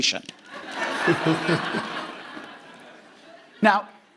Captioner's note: audience laughing